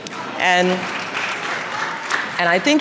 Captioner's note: applause